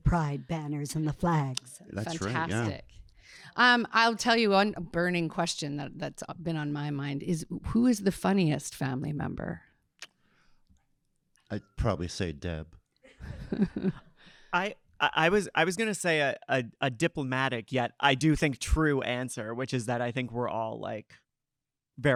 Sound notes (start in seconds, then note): 13.2 audience laughing